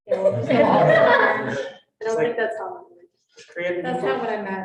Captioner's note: students chuckling